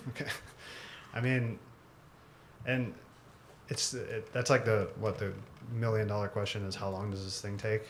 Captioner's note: laugh